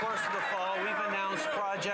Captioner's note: some Applause